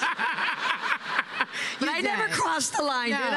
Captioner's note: laughter